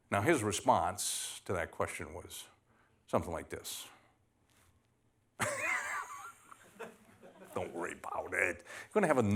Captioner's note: laughter